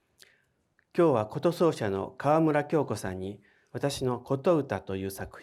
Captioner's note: speaking in foreign language